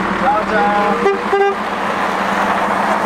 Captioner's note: honking